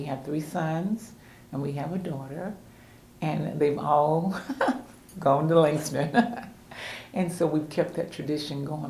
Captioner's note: laughs